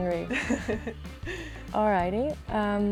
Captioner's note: Ashley laughs